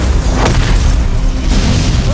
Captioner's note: ice hissing, flames roaring; boom